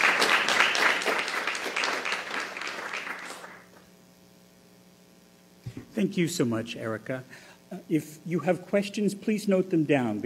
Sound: applause

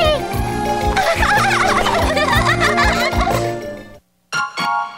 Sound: girls giggling; electronic music

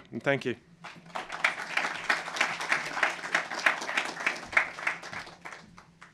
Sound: applause

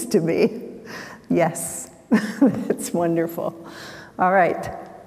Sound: chuckles

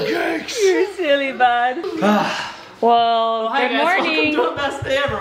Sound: sighs with exhaustion

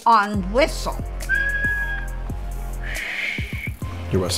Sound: whistling; blowing

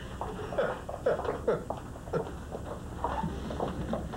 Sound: Rire

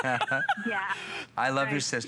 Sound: laughter

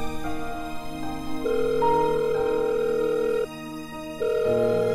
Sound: phone ringing

